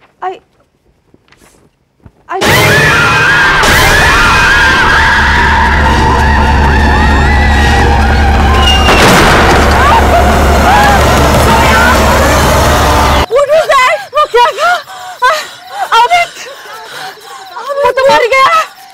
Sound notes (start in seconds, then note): 3.8 screams; 8.6 door closing